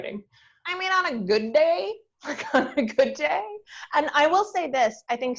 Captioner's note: laughs